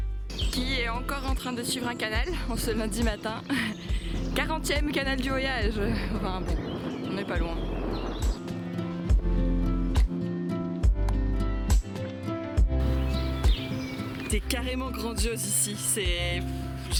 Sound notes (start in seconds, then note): 7.8 laughs